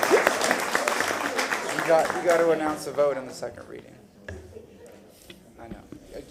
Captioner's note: laughter; applause